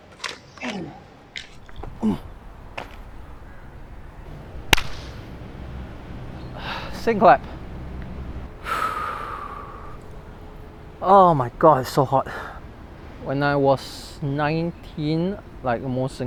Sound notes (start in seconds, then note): 4.6 clap; 8.6 breathes out